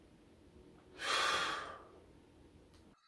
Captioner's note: sighs